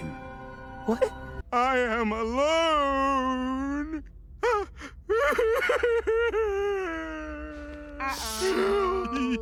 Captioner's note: dissolves into tears